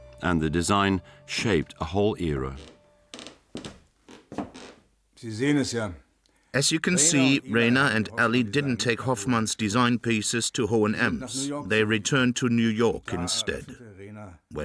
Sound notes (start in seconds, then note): 5.3 speaks in German